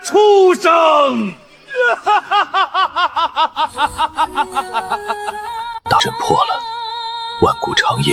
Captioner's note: laughter